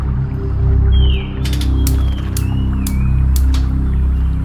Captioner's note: stove clicking